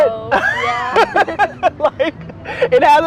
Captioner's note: both laugh